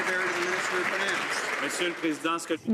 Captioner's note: some Applause